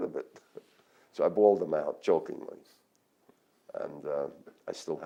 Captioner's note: laughs